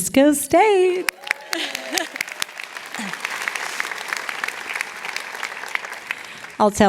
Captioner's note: applause